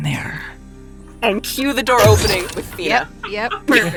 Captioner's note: door slides open; laughs